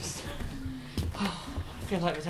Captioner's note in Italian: sospira